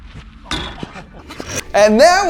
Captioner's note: ball clacking